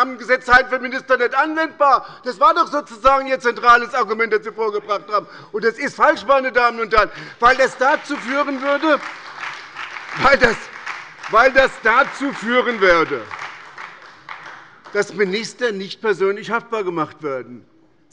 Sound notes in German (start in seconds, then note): 6.2 Beifall bei der SPD